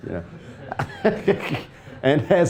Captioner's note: all laughing